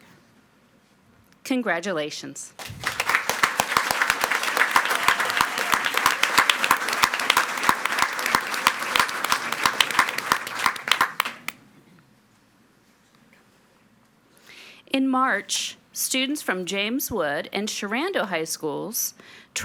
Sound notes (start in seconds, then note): 3.0 audience clapping